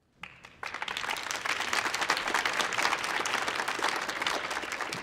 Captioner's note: audience applauding